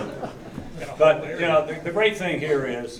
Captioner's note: laughter